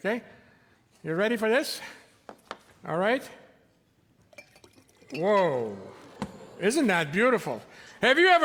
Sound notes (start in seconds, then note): 5.2 audience exclaiming